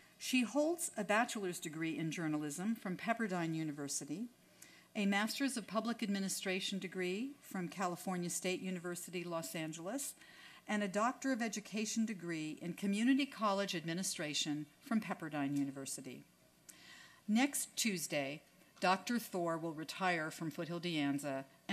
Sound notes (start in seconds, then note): none